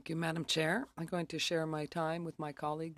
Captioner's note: speaking French